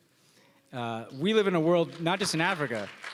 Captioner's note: applause